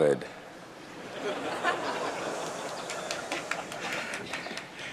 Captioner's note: laughter